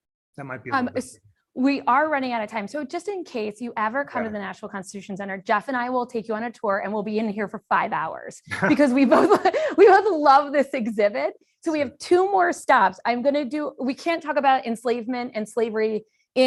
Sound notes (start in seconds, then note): 8.5 laughter